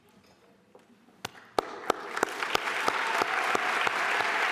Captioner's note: applause